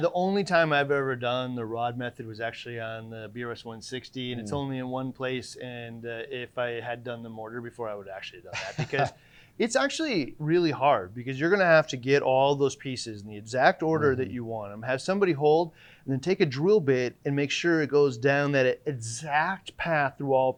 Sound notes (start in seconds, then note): 8.5 laughing